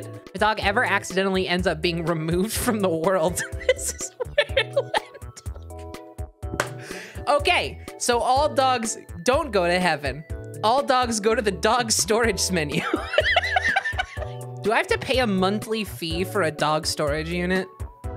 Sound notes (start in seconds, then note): 3.5 cracking up; 12.9 laughing